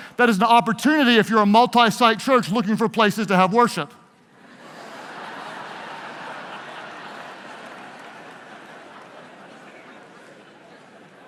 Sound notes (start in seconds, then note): 4.4 audience laughs